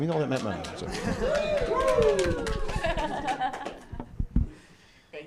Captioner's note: applause